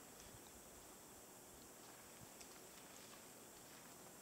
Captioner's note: sounds of branches as something is moving away quietly